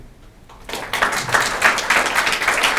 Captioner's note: applause